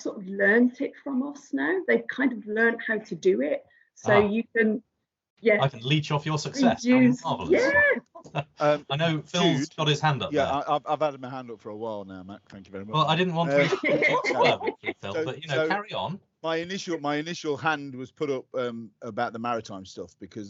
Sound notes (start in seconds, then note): 13.4 laughter